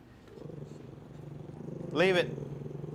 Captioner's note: quiet growling